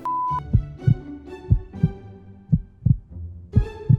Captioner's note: heart beating